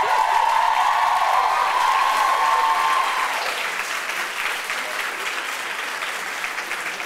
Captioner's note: applause